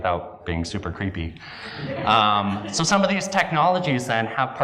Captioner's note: laugh